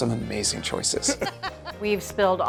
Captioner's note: Julia laughing